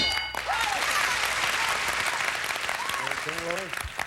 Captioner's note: audience applauding